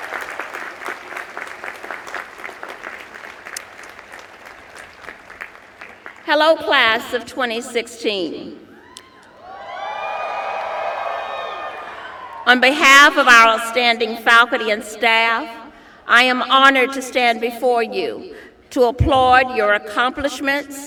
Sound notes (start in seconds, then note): 0.0 applause; 8.8 cheers and applause